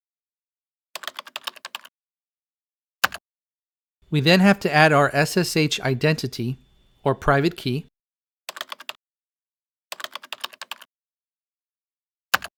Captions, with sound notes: [typing] We then have to add our SSH identity, or private key, [typing]